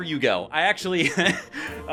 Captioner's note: chuckles